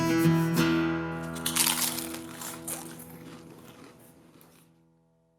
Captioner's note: crunch sound